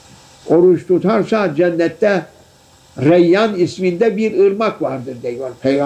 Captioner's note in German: saws